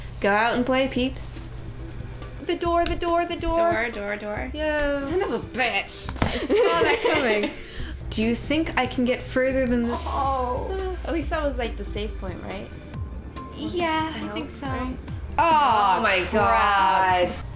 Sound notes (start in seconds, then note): 1.5 theme music plays; 6.2 laughter; 10.7 sigh